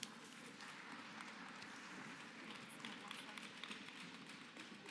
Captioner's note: applause